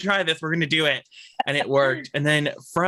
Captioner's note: laughs